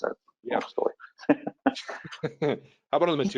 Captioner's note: laughs